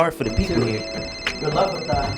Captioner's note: phone rings